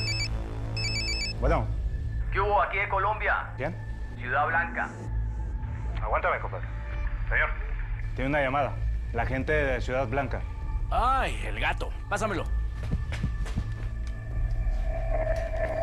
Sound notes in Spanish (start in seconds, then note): 0.0 Suena el celular